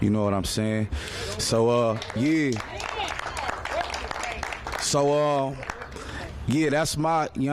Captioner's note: applause